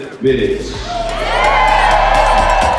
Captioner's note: cheering